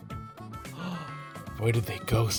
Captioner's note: Sonic gasps